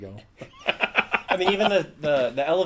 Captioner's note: laughs